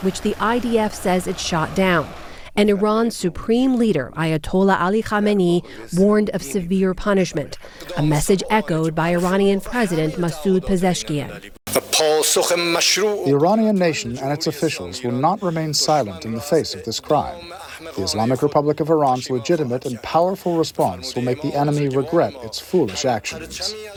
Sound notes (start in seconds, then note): 13.7 through translator